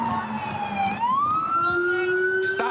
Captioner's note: sirens